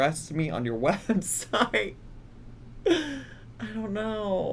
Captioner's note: laughing